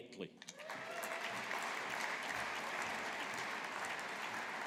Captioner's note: audience applauding